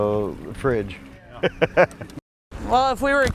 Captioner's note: laughing